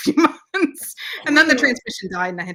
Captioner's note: laughs